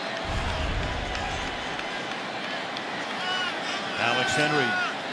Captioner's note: whistle